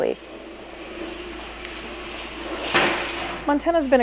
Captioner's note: chair scraping